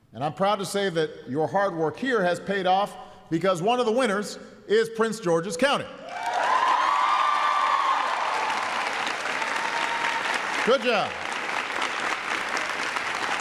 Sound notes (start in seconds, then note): 6.7 applause